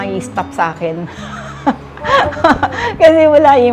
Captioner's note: laughs